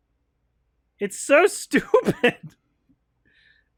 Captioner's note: laughs